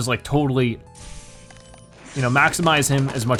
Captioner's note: lightning